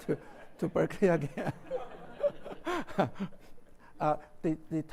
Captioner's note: laughs